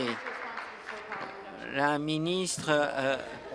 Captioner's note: applause